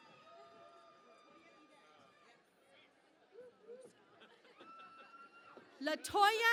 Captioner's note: cheering and Applause